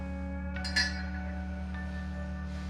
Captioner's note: dishes clatter